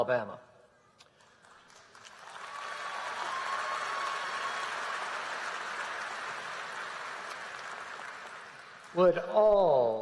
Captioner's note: applause